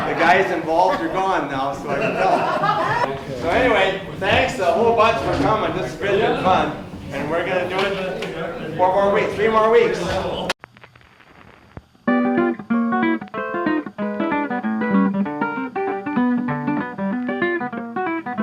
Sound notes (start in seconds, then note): 2.2 crowd laughs; 10.7 static old record sounds; 11.9 jazzy, upbeat, old-timey music plays